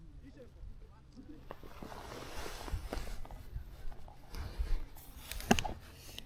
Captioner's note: click